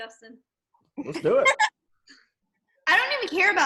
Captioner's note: laughs